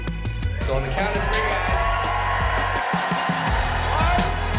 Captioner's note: crowd cheering